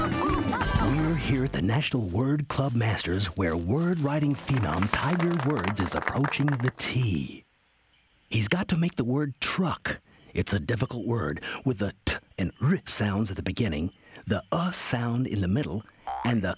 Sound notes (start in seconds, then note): 11.9 makes "t" and "r" sounds; 14.5 makes short "u" sound